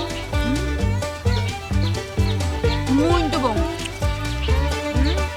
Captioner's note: birds